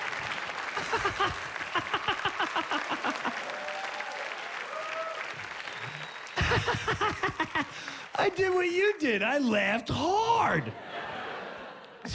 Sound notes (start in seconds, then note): 0.3 laughs